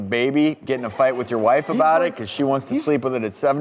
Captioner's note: audience laughs